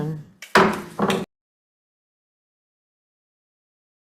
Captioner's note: gavel pounding